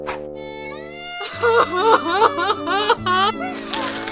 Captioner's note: mother cries